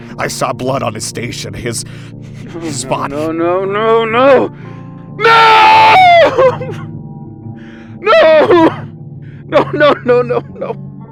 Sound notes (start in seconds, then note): 7.8 Clive sobs